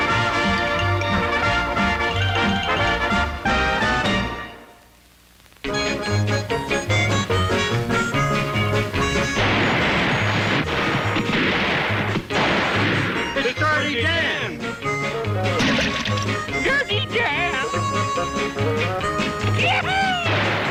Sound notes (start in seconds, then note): 0.0 cheerful upbeat music continues; 11.0 guns banging; 17.1 water splashes